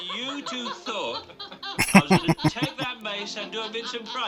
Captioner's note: laughing